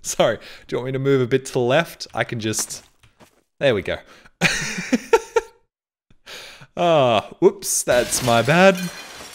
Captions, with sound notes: Sorry do you want me to move a bit to the left? I can just... there we go. *laughs* Ah. whoops. That's my bad.